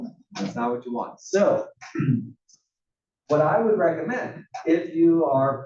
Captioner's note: cough